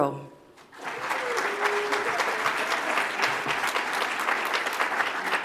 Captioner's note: audience applauds